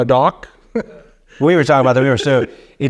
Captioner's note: laughing